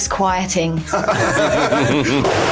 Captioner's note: laughing